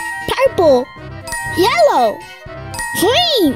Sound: bell dings

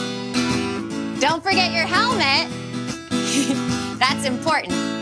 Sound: giggles

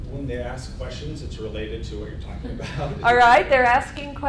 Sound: laughing

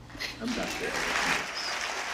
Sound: applause

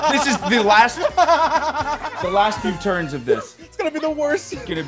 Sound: laugh

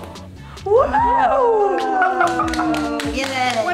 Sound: hands clapping

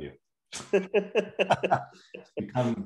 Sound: laughing

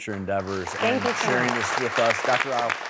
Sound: applause

